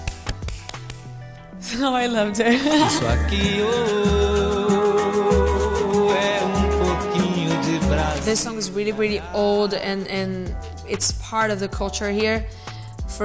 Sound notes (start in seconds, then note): 0.0 clapping; 2.3 cheerful music; 2.4 chuckles